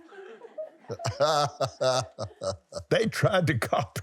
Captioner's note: laughs